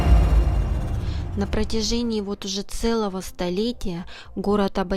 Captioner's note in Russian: закадровый голос